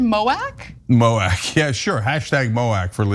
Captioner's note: laugh